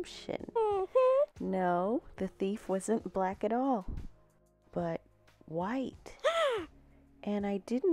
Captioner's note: gasp!